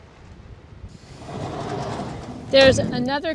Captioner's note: door sliding